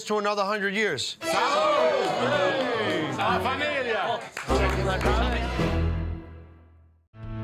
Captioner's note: crowd